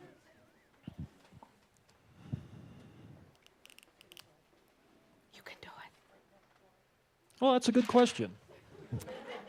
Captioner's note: whispering